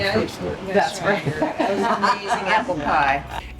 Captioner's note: laughter